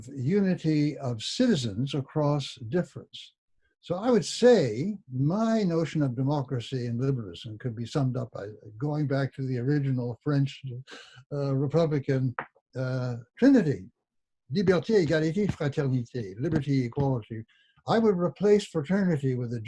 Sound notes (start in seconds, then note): 14.7 speaking in foreign language